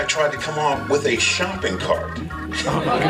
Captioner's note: laughter